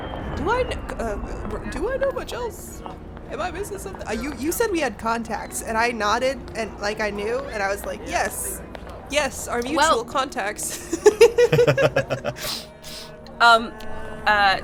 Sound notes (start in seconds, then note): 10.7 chuckle